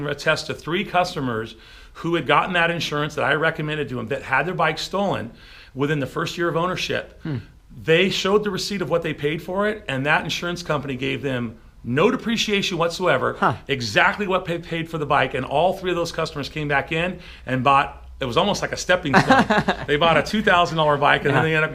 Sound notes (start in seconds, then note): 19.1 man laughs